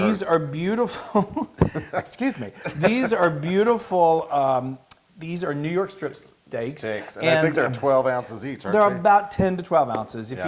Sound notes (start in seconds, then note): 1.0 laugh